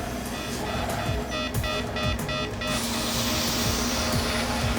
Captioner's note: emergency alarm blaring